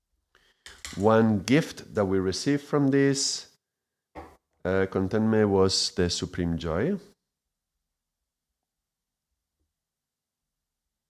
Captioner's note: silence; silence